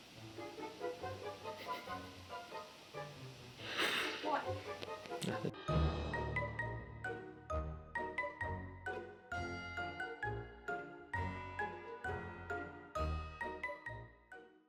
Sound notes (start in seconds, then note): 1.5 laughing at me off camera